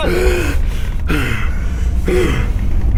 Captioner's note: gasping